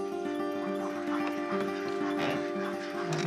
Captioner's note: ducks quacking